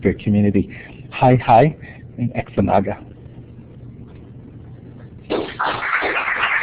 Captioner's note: speaks in Native language; round of Applause